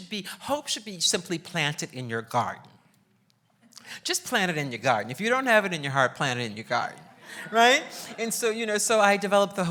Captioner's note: laughs